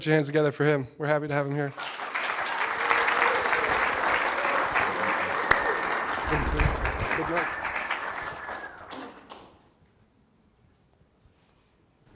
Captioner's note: applause